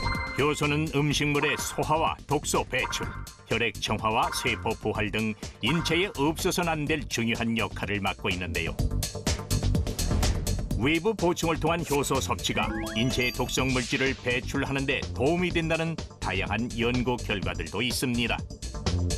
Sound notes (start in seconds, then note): 1.4 voiceover